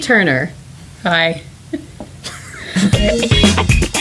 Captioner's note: laughter; exciting music